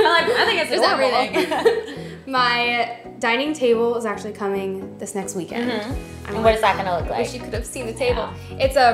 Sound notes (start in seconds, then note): 1.3 both laugh